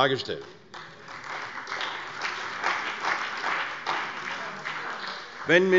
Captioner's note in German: Beifall bei der CDU und dem BÜNDNIS 90/DIE GRÜNEN